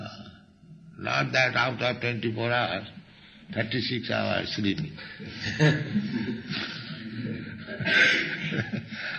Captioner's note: laughter